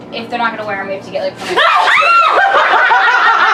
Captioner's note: screams; laughs